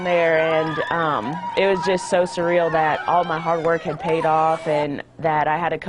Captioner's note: cheering